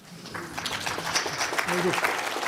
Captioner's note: applause